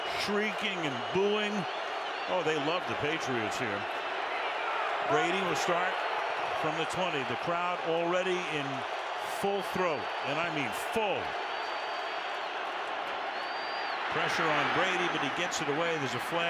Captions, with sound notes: and shrieking and booing. Oh, they love the Patriots here. Brady will start from the 20. The crowd already in full throat, and I mean full. [booing] Pressure on Brady, but he gets it away.